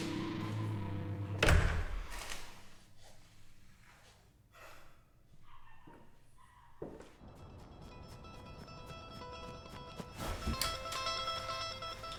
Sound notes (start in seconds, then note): 4.9 exhaling; 7.2 soft suspenseful music